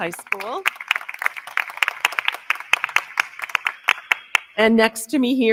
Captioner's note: crowd clapping